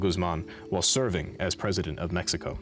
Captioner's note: none